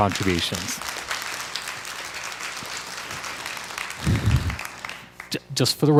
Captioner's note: crowd applause